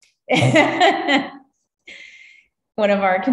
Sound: laughs

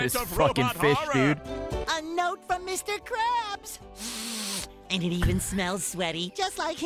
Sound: sniffs

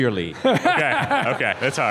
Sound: Bob laughing

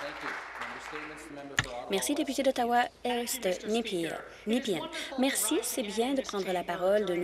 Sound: applause

